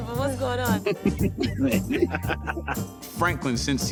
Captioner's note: laughter